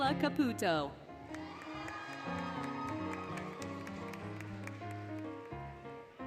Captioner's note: applause, Cheering, Music